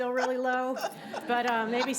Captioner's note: Cynt laughing